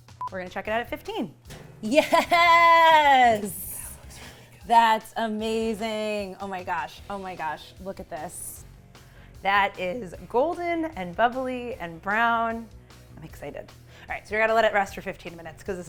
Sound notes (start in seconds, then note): 0.0 speaking italian; 3.7 whispers